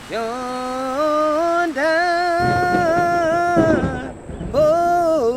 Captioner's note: thunder rumbling